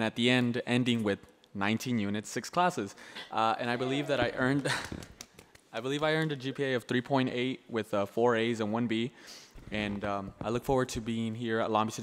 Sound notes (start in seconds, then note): 3.4 laughs